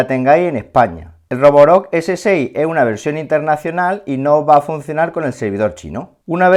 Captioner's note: Spanish